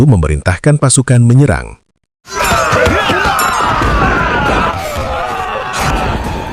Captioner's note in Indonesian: berteriak